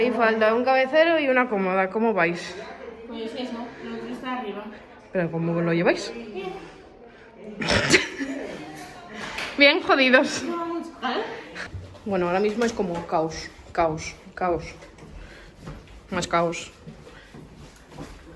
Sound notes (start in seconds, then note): 7.5 laughs